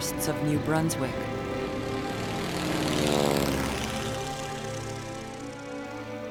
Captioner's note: noise of an airplane